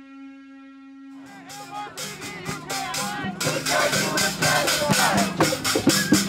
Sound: protestors chanting

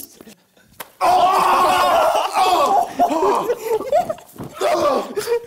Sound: both screaming; JJ grunting

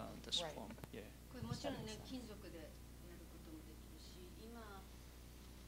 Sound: non-english speech

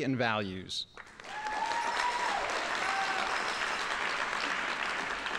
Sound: audience applauding

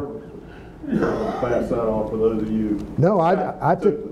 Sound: man speaking off mike

